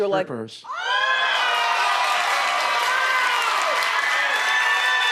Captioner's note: audience cheering